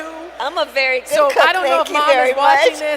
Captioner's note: laughs